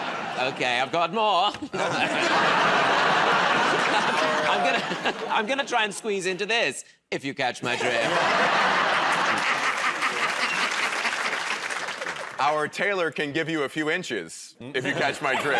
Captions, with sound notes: -Okay, I've got more. [ Laughter ] I'm gonna try and squeeze into this, if you catch my drift. [ Laughter ] [ Applause ] -Our tailor can give you a few inches, if you catch my drift.